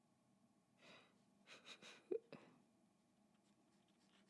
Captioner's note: laughs at self